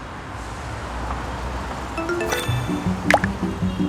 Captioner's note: notification